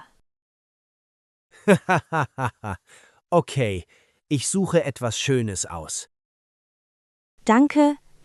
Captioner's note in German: laughs